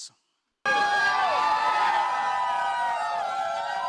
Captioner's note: cheering